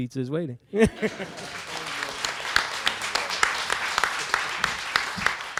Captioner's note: audience and panel claps